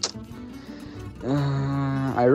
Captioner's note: moans